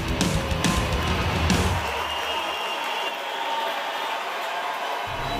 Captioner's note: multitud aclamando, silbando